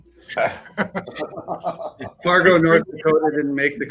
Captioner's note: all laugh